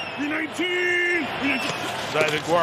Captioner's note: cheers and applause; crowd noise